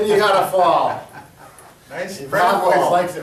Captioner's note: laughs